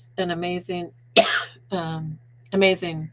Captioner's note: coughing